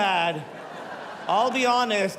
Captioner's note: laughter